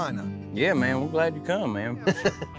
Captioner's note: chuckles